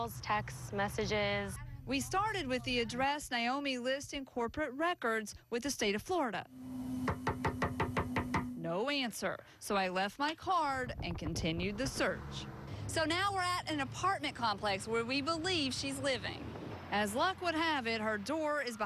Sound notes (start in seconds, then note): 6.9 knocking